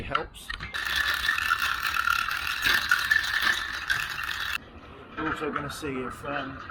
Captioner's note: cart clattering across pavement